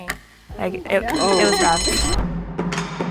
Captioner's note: bell rings; percussive music